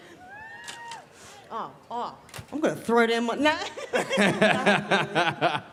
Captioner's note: laughs